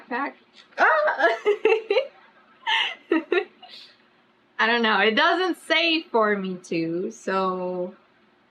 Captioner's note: laughs